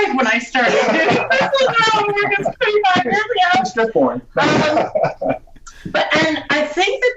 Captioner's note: all laugh